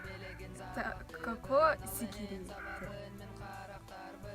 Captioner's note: using Russian loanword but makes it sound more Sakha